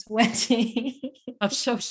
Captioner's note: laughs